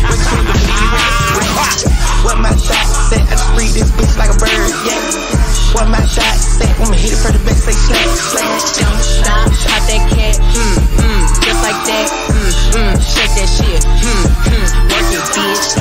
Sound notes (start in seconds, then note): 0.0 ha ha ha; 0.0 + laughter with excess reverb